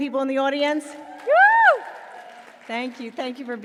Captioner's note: audience screaming